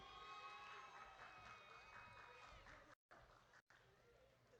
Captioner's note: audience cheering